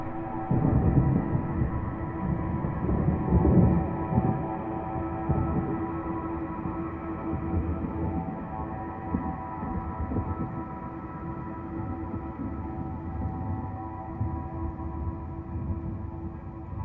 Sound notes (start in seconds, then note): 0.0 thunder rumbling